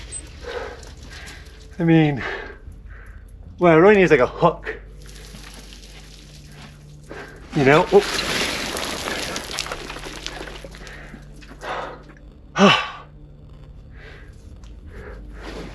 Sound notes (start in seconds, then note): 9.0 rocks clattering; 12.6 sighing